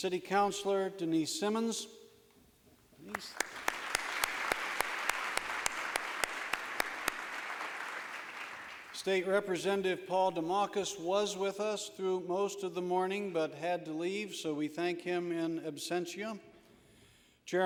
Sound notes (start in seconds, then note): 3.0 applause